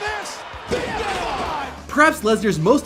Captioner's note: body thuds